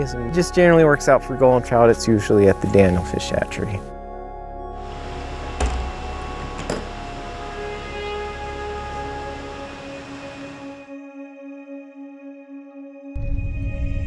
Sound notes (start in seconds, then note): 4.9 metal thumping; 7.6 lighthearted music